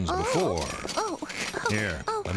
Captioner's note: grunting nervously